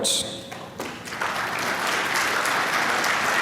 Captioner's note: applause